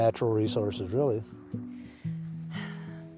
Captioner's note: sigh